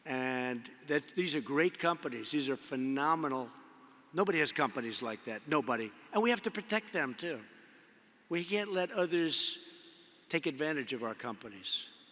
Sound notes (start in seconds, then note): none